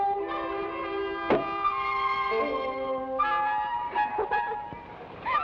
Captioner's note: bowl thuds; Clara laughs